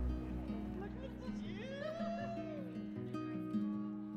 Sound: laughing

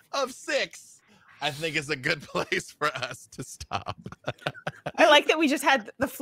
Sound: laughs

